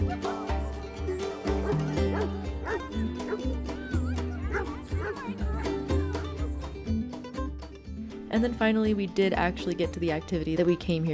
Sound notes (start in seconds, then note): 2.6 dog barking playfully